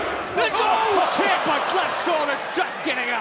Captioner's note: crowd cheering